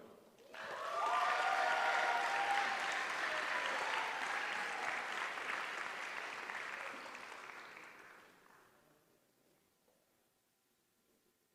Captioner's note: applause